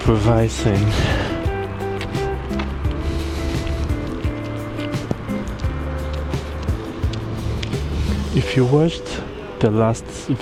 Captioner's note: wind Blowing